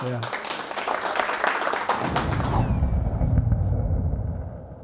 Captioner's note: audience applauding